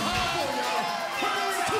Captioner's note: crowd cheering